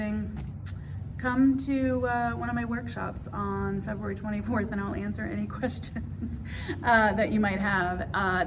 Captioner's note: laughs